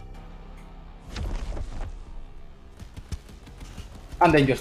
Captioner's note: rumbling